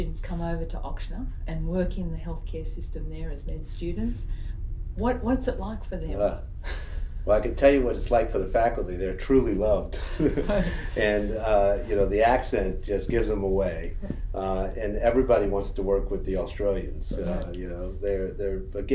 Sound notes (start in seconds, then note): 9.8 laughs